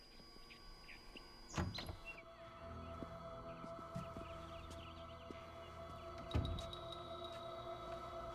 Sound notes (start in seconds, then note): 0.4 ominous music; 1.6 door clicks